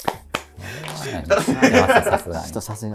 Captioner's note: laughing